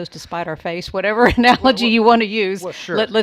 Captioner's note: chuckles